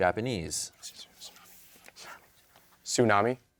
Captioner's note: team whispering